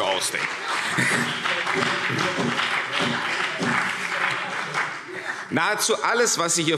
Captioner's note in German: Beifall CDU und BÜNDNIS 90/DIE GRÜNEN